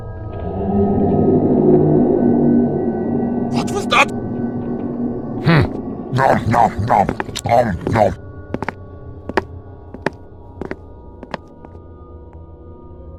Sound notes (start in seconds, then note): 0.5 bellowing roar; 6.1 Heavy eats his sandwich